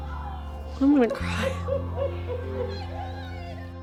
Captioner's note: crying